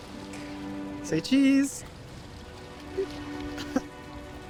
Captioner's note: laughs